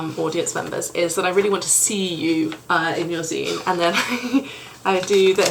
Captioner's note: laughs